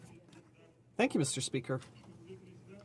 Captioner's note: speaking French